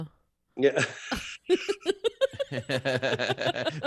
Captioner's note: laughing